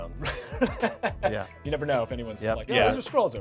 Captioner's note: laughing